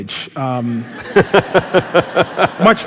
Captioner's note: laughter